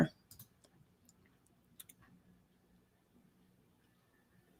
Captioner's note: computer mouse clicking